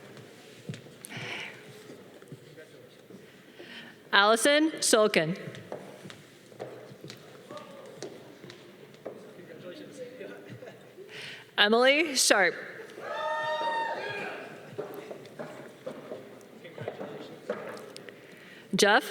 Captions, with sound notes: - Congratulations. - Allison SoCon. - Congratulations. - Emily Sharp. (audience cheering) - Congratulations.